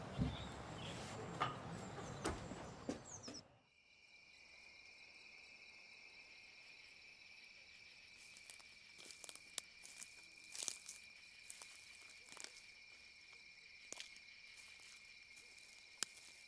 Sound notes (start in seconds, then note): 3.9 crickets chirping; 8.7 branches cracking